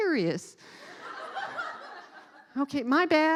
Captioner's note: laughing